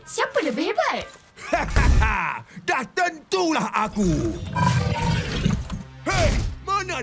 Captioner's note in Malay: ketawa